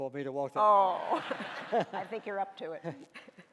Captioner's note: laughing